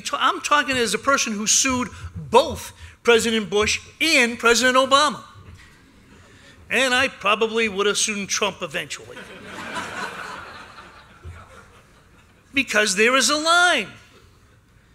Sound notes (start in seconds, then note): 9.1 laughter